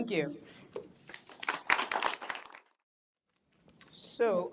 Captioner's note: applause